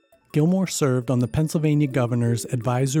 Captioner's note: voiceover